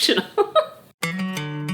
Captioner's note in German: Mutter lacht; Fröhliche Musik